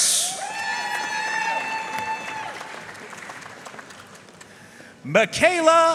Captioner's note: audience cheering and applauding